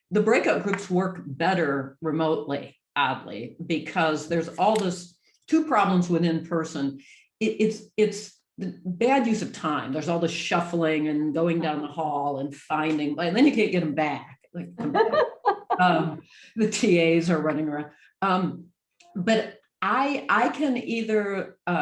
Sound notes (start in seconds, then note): 14.8 laughs